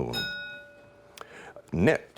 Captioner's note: ding